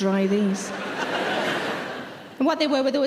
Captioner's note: laughing